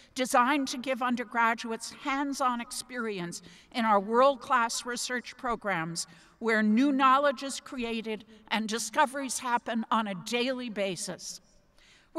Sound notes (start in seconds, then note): none